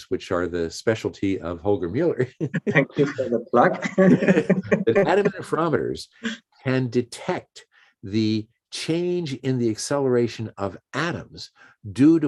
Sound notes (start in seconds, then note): 2.3 laughs